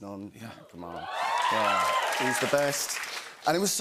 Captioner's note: cheers and applause